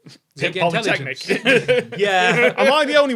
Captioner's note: laughs